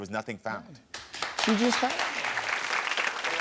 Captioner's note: audience applauds